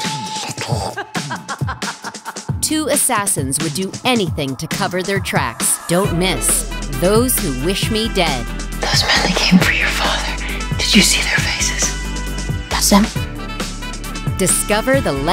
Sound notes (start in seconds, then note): 0.8 woman laughing